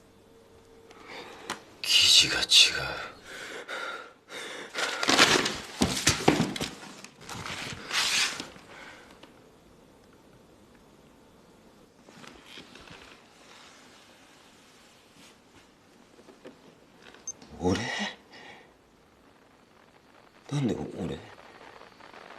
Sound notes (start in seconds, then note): 2.9 pants heavily; 5.0 pants heavily; 16.3 camera beeps